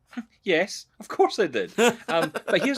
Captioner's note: laughing